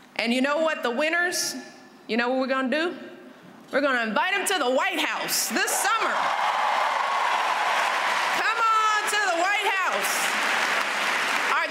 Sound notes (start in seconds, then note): 6.0 applause